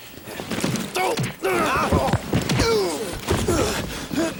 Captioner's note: groaning